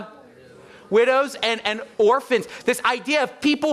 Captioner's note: audience murmuring